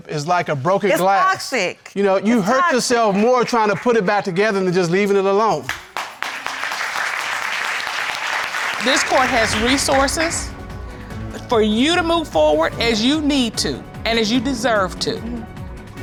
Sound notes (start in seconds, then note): 5.6 audience applauding